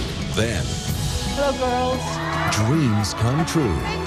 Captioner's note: girls cheering